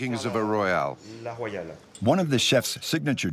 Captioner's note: speaking in foreign language